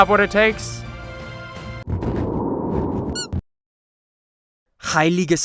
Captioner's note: wind blows